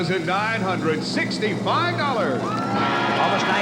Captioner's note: cheering and applause